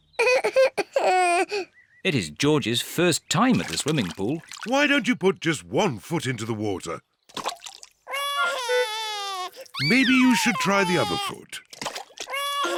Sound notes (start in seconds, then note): 0.2 cries; 8.1 cries